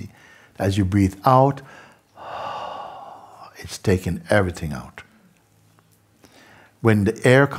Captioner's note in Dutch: lange uitademing